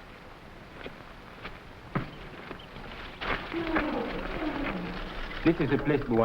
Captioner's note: gorillas groaning; footsteps rustling